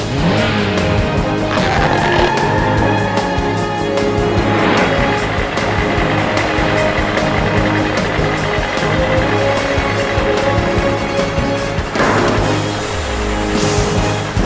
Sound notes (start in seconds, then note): 1.7 tires screeching; 4.4 cars passing